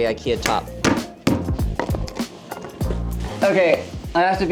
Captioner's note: hammer bangs